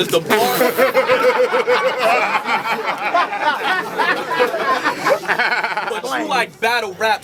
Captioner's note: crowd Reaction